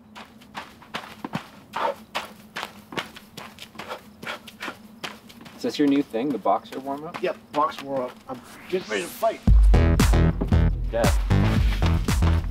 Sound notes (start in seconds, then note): 1.7 jumping; 8.4 upbeat music